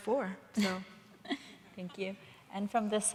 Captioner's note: Paulina laughs